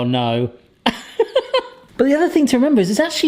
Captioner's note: laughing